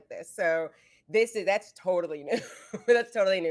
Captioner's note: giggles